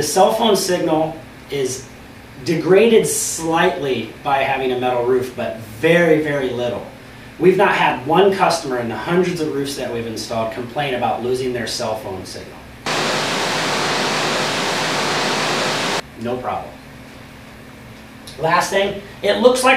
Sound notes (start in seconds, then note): 12.8 static